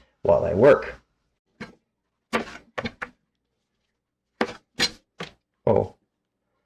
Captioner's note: knife cutting